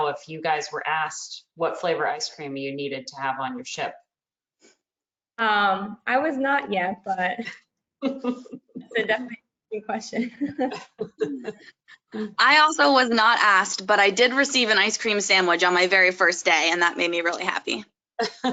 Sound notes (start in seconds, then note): 8.0 laughs